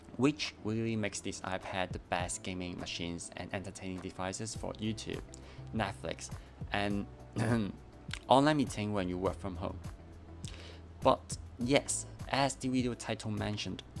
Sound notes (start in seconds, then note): 7.4 cough